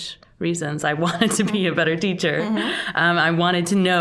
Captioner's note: chuckling